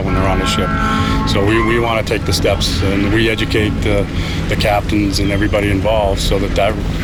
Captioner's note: ship’s horn